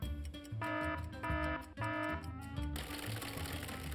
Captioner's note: alarm blaring